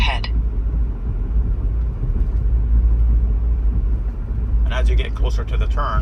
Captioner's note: car engine humming